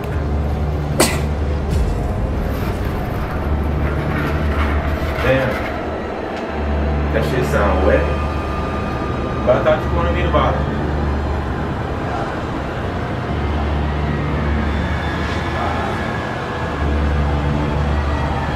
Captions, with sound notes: Damn That shit sound wet But I thought you wanted me to bottom (distant yell)